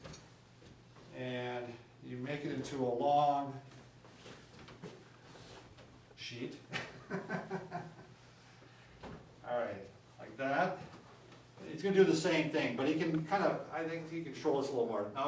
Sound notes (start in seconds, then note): 6.7 chuckles